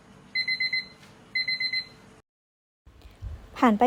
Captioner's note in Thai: เสียงนาฬิกาจับเวลาดัง